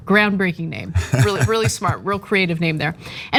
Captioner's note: laugh